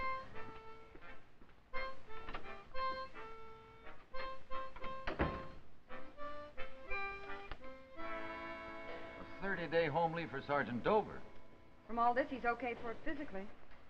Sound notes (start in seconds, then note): 4.7 sound of door closing